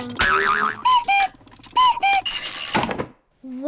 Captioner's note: clock cuckoos